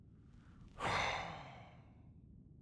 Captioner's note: sighs